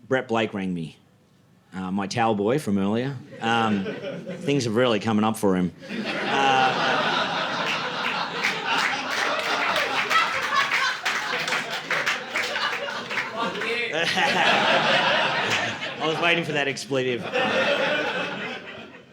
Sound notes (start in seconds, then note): 8.0 audience laughing